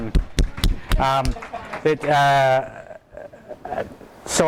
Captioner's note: clapping; claps